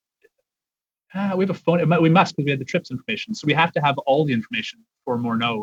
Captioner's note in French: voix de l'interprète